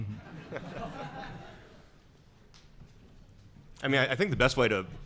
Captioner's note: audience laughing